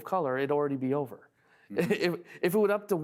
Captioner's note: laughing